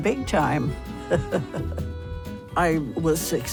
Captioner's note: chuckles